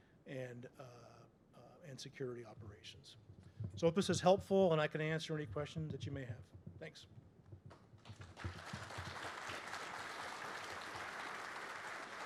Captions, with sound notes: and security operations. So if this was helpful, then I can answer any questions that you may have. Thanks. [APPLAUSE]